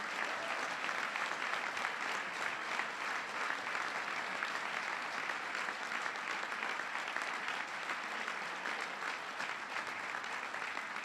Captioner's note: applause